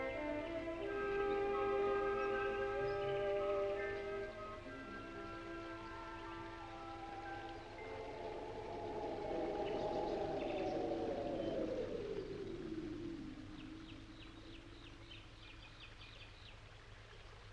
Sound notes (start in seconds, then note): 7.6 wind howling